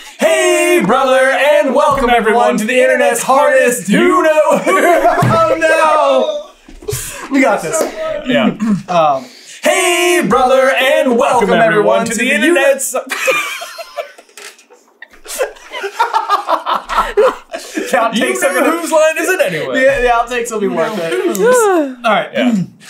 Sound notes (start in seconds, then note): 4.6 laughter; 13.2 entire team dying laughing